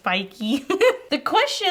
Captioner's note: laughs